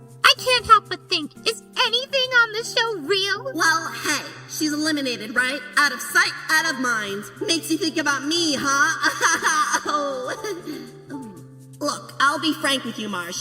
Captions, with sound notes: I can't help but think, is anything on this show real? Well, hey, she's eliminated, right? Out of sight, out of mind. Makes you think about me, huh? [laughing] Look, I'll be frank with you, Marsh.